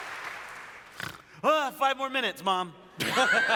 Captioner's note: snort; laughter